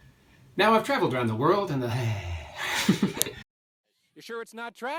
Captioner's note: laughter